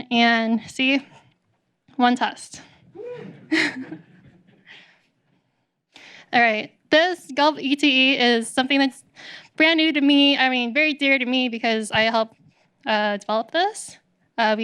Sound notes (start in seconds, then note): 2.9 laughs